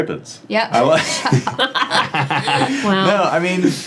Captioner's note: team chuckles